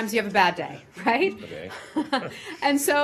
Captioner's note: laughter